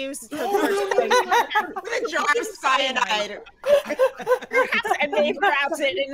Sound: group laughing

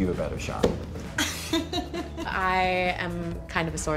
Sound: laughing

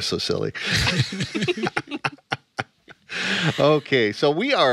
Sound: all laughing

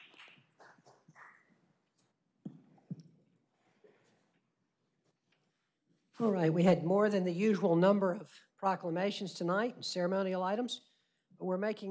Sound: applause

